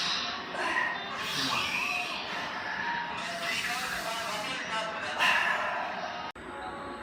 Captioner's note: breathing Deeply